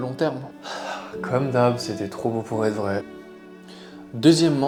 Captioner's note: sighs